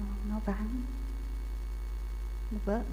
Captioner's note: Vietnamese